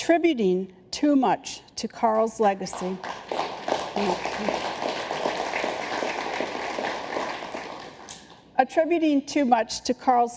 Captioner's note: applause